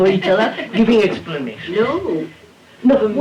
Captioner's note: laughter